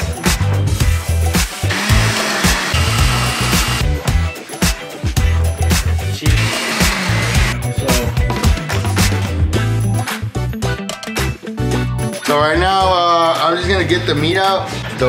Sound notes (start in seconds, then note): 1.2 upbeat music continues; 1.6 blender whirring